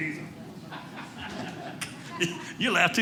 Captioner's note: audience laughing